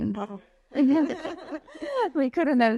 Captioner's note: laughing